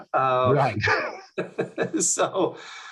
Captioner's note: laughs; laughing